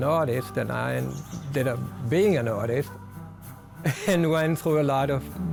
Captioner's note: chuckles